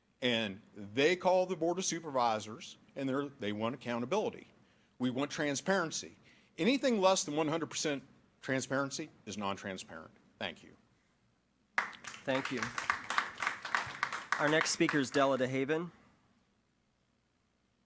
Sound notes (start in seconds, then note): 11.7 applause